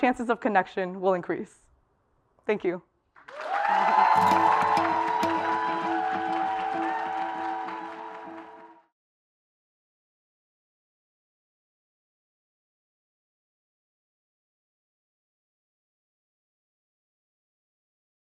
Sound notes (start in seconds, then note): 3.1 applause